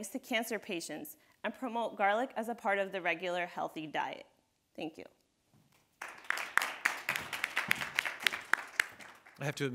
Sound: audience applauding

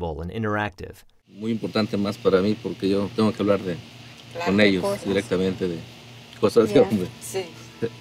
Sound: in Spanish

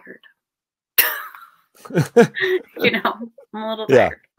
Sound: laughing

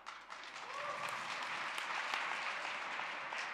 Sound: applause

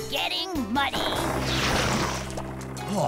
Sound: splat!

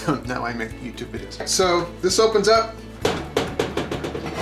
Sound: clanking

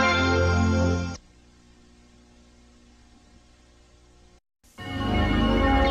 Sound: VHS static; analog synthesizer music plays

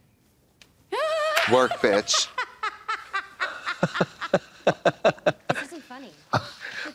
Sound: Amy laughs hysterically

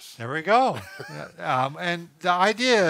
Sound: laughing

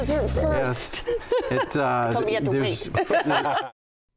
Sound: laughs

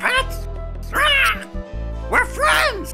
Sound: squawking

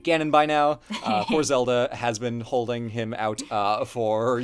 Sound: laughs

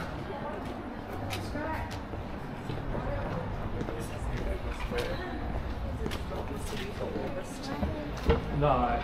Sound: people chattering

